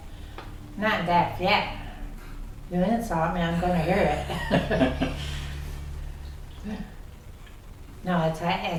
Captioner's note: laughs